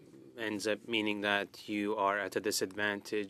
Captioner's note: speaking French